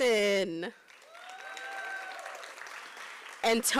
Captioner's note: applause